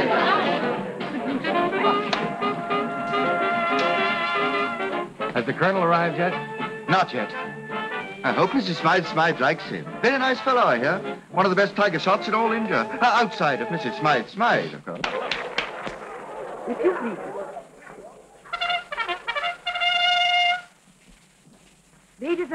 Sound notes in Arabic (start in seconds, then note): 15.2 تصفيق; 16.0 ثرثرة خفيفة; 18.4 موسيقى البوق المبهجة